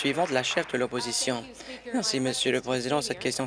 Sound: applause

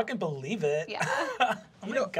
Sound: laughter

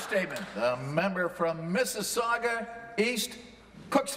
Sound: applause

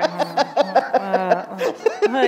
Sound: laughter

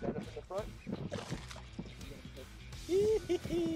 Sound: splash; laughter

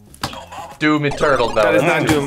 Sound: buzzer

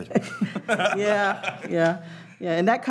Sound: laughing

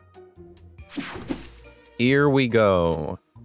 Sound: transition zapping

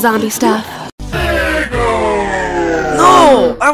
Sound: SEGA Game Gear powers off

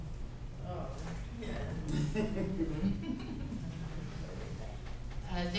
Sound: chuckle

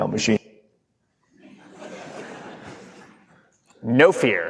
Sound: audience laughing

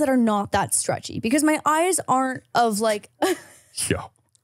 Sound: laughs

